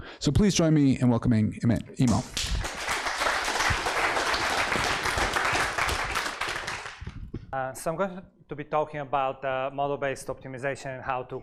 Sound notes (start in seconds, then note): 2.0 applause